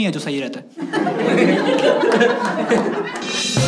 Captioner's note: laughs